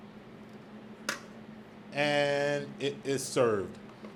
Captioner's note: tongs clank